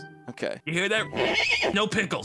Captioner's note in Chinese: 馬叫聲